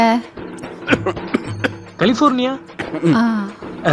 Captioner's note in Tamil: சிரிப்பு